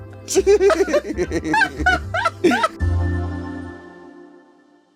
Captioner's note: laughing; smooth easygoing music